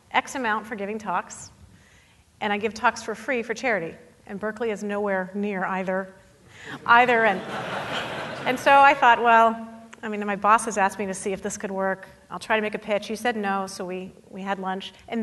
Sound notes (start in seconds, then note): 6.7 audience laughing